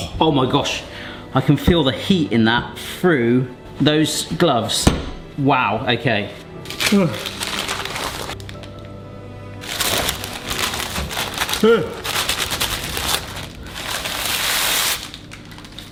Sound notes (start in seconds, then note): 0.0 dramatic instrumental music; 6.6 paper rustling